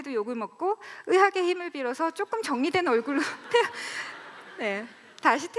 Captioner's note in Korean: 웃음